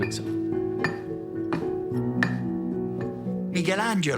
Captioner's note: chisel chinks against stone